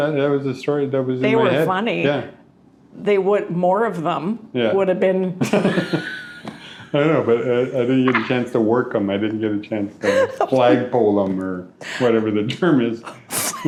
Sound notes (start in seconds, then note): 5.4 both laughing